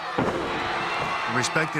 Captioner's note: audience cheering